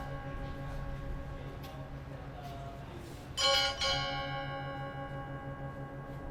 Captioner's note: bells ringing